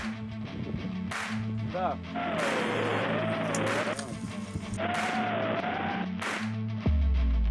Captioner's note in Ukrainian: оплески